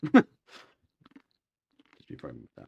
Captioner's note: laughs